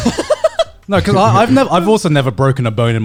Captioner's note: Alex laughs